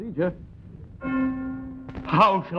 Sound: bells ringing

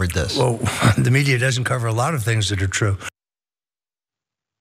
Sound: laugh

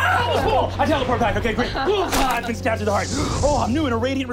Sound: screaming; stabbing; wooshing

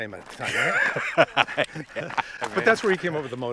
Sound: laughs

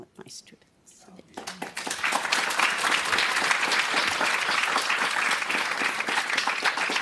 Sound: applause

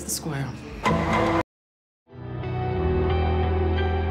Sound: dramatic chord plays; cheers and applause

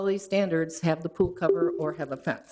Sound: electronic chime

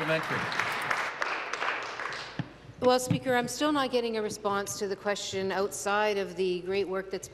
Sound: applause

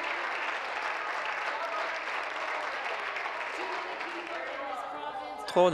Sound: applause

